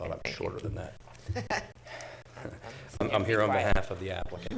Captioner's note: chuckling